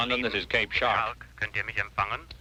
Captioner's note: speaking foreign language